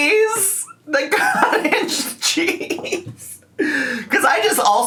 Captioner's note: laughs